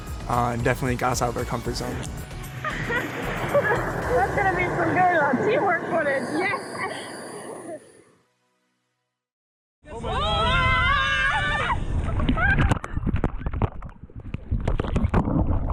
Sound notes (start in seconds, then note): 2.6 laughing; 9.9 screaming; 12.8 water splashing